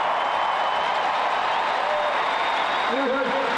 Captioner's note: crowd cheering